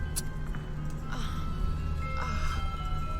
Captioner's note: moans